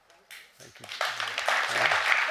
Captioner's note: audience applauding